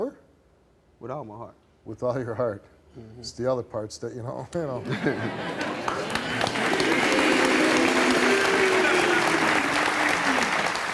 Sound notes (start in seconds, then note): 4.8 audience laughing; 5.4 audience clapping